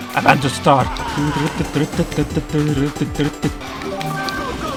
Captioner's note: humming the theme